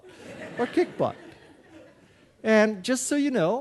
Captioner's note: audience laughing